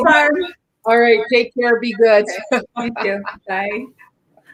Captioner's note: laughs